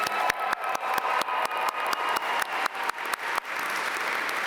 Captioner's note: audience cheer and applaud